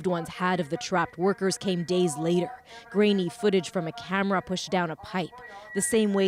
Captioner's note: speaking alternate language